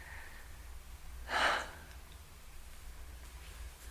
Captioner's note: sigh